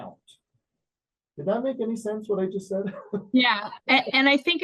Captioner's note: laughs